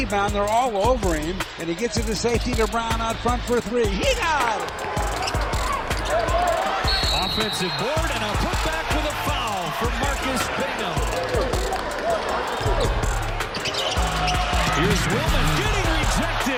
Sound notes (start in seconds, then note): 4.9 sneakers squeaking; 6.7 whistles trills; 12.3 upbeat music